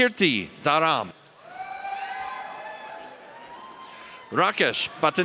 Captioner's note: audience cheers